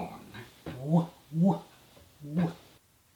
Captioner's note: bad James Cagney imitation